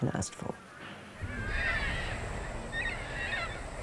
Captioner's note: birds squawk